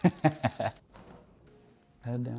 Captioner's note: laughs